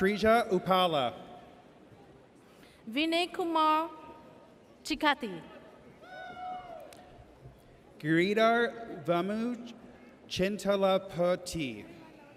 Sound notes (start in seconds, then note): 6.1 audience cheers